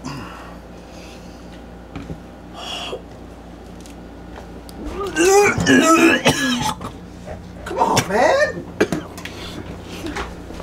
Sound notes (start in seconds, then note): 4.8 gaging noises